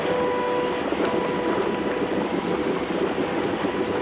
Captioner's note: rocks clattering